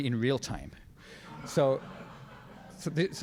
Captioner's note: crowd laughs